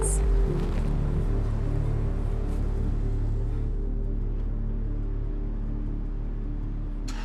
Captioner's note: bright music continues; traffic humming